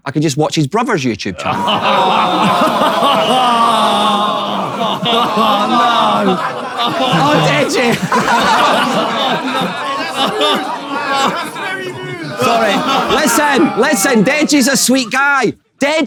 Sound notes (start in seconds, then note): 1.7 people in room laughing and groaning; 8.5 people in room laughing